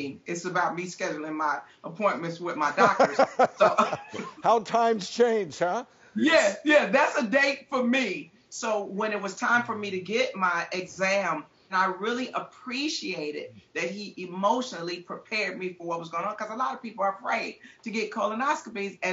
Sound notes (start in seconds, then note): 2.7 laughs